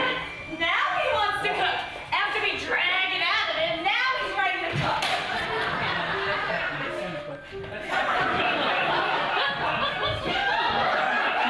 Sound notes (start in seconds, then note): 5.4 audience laughing